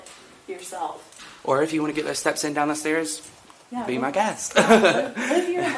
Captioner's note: laughs